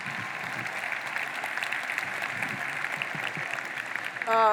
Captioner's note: audience applauding